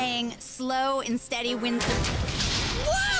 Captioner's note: mechanical whir and thud